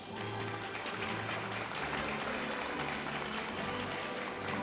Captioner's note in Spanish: aplausos de la audiencia